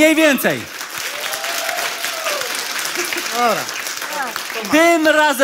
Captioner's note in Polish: oklaski publiczności